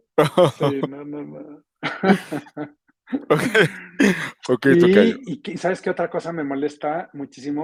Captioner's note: laughs